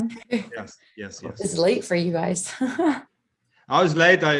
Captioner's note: laughs